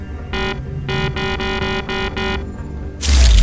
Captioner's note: beep beep beep beep beep